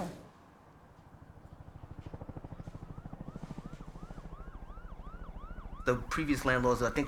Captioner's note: siren sounding